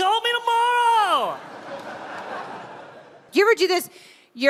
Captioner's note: crowd laughs